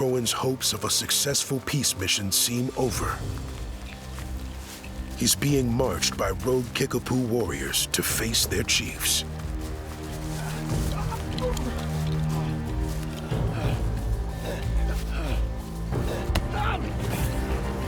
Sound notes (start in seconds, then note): 11.3 croghan grunts; 13.8 croghan breathing heavily